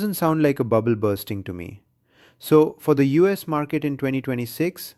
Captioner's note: sarcastic